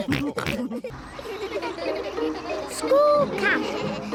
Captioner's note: all giggling